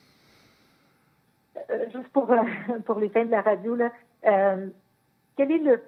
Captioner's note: speaking French